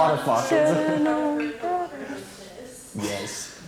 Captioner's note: participant faintly speaking